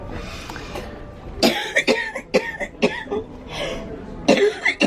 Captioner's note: more coughing